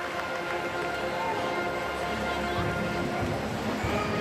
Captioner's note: crowd chattering